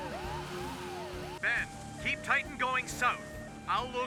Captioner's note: on Radio